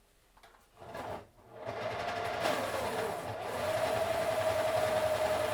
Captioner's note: pencil sharpener whirring